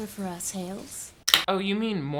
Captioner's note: can lid pops